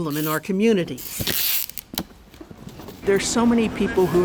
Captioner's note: tape screeches